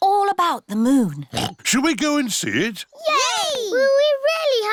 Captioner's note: oinks